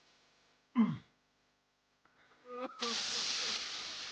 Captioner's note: crying